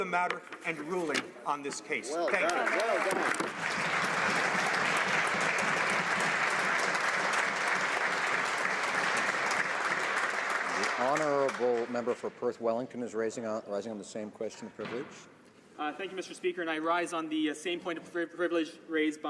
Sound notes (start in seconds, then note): 6.5 applause